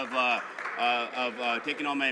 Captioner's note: some Applause